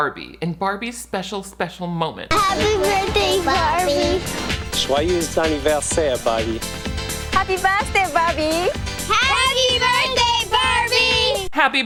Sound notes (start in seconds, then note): 4.7 painter speaks in French